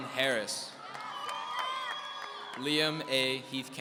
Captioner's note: audience cheering